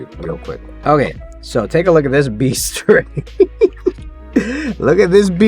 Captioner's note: laughing